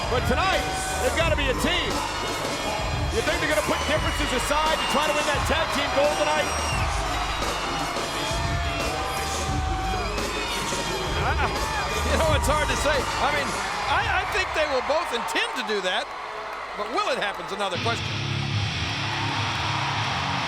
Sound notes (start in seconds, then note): 7.6 crowd cheering; 7.6 upbeat music continues; 19.2 upbeat music